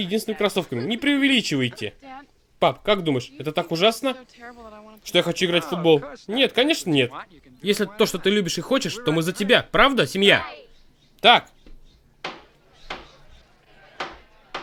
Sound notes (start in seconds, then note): 12.2 gavel banging; 12.4 chatter